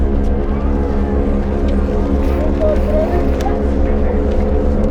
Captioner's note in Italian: chiacchierio del pubblico